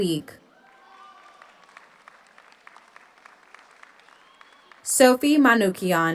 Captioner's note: audience cheers; audience applauds